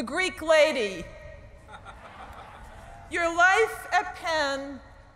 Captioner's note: laughter